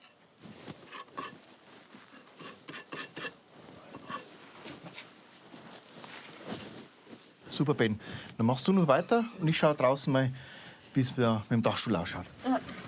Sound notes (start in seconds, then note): 0.7 scavengering sounds